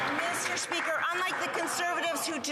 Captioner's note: some Applause